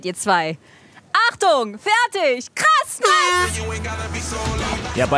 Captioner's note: Startsignal